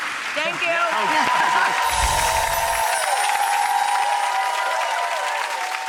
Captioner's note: audience claps and cheers